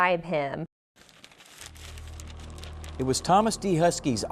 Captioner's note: paper shuffling